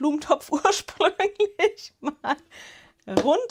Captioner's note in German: Gelächter